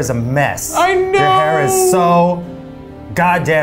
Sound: crying

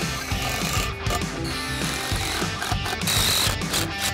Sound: upbeat rock music; drill squealing

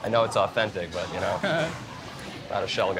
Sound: chuckles

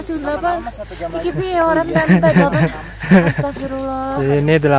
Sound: in Javanese

